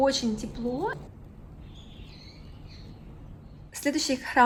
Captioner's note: bird sounds